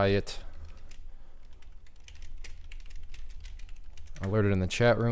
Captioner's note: keyboard clicking